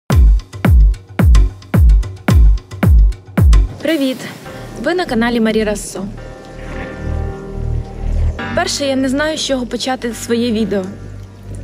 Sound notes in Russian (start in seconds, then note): 0.0 На Украинском языке